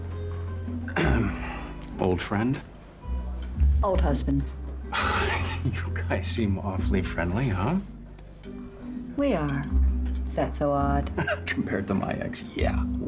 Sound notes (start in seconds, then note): 5.0 laughs; 11.2 laughs